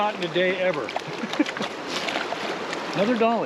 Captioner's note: chuckling